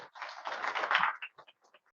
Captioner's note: applause